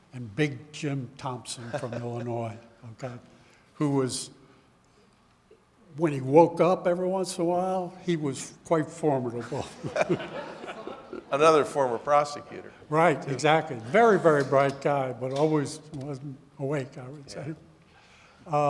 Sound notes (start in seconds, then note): 9.4 audience laughing